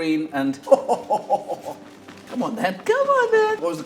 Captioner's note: chuckling